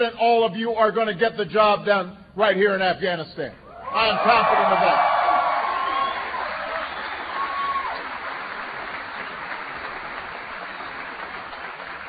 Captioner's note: applause